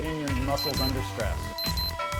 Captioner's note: beep sound